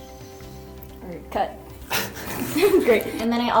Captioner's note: laughs